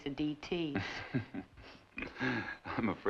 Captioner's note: chuckles